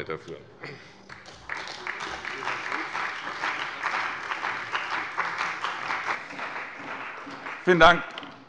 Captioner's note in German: Beifall bei der CDU und dem BÜNDNIS 90/DIE GRÜNEN